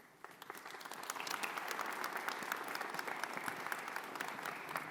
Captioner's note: audience applauds